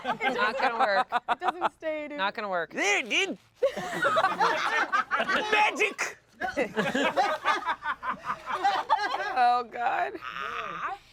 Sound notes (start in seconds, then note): 0.0 laughs; 3.7 everyone laughs